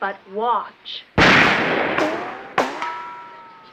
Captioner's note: gunshot and ricocheting bullet